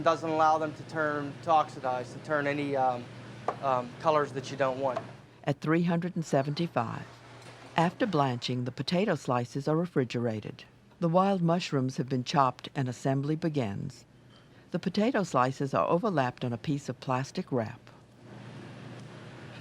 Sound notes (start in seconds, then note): 6.0 voiceover